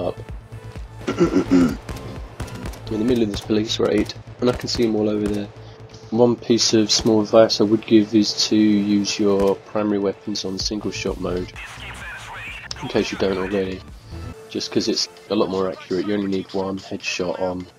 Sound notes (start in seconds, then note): 1.0 clears throat